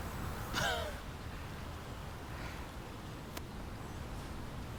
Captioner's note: Laura chuckles